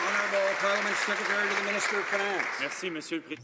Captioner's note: some Applause